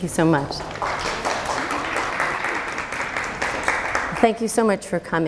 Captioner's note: applause